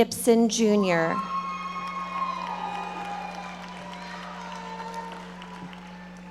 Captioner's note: audience members shouting